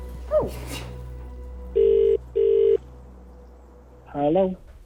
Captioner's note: phone ringing